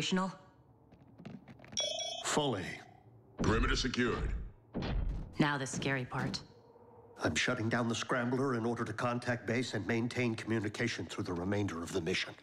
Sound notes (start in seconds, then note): 1.8 beep